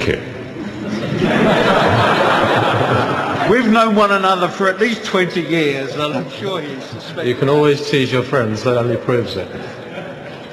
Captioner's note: laughter